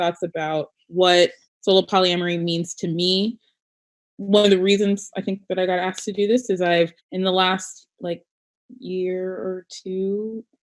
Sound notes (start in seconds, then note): none